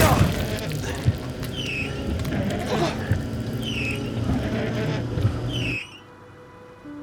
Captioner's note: intense music; Walter gasps; windshield wipers squeaking